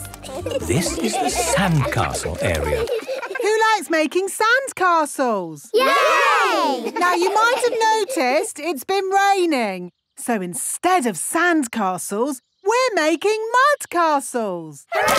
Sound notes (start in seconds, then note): 6.3 laughing